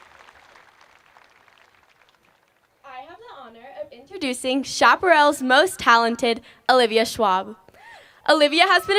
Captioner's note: applause